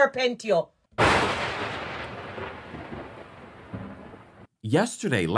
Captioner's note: thunder cracks